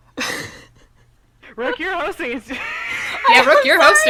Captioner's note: exhales; wheeze